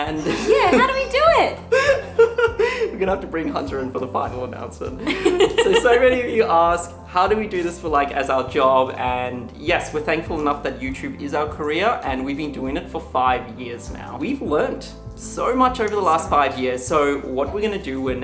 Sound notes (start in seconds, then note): 1.6 laughs; 5.0 laughs